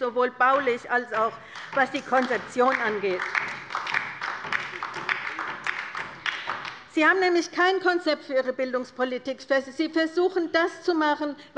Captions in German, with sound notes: sowohl baulich als auch bezüglich der Konzeption. [Beifall bei der LINKEN] Sie haben nämlich kein Konzept für Ihre Bildungspolitik. Sie versuchen, nur das zu machen,